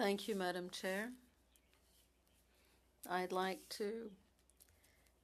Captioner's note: speaking French